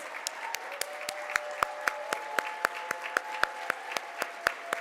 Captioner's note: audience applauds